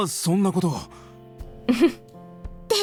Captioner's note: chuckles